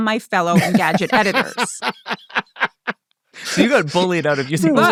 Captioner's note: laughing